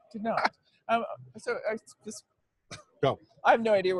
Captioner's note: stammering